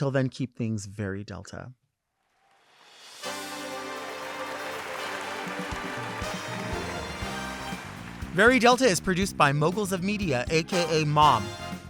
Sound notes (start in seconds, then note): 3.2 audience clapping; 3.2 upbeat music